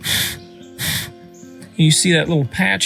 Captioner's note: loud blowing